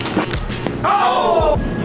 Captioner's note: hit